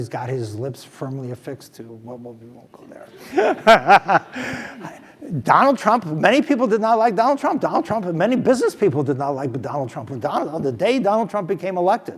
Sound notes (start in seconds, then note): 3.1 laugh